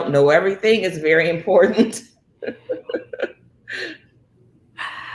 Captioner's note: laughs